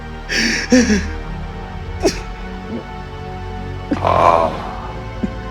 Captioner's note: slow synth music; Anton cries